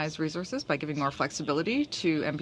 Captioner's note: speaking French